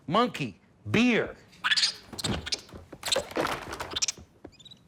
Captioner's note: monkey noises